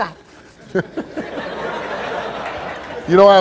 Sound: laughing

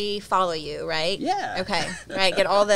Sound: laughs

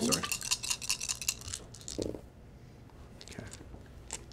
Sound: dice rattle and thud

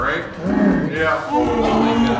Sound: Chewbacca roar

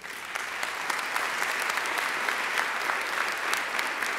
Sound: audience applauding

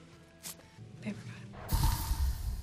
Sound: paper tearing; dramatic music

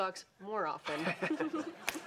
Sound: both laughing

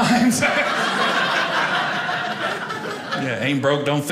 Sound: audience laughing

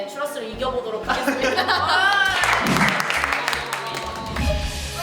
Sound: applause

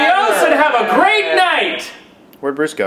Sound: halfheartedly cheers

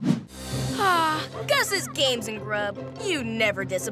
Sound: sighing

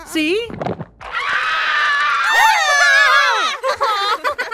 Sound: screaming; laughter

